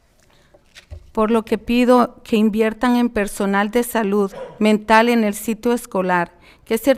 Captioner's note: speaking in foreign language